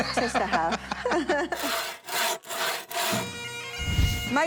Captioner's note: laughing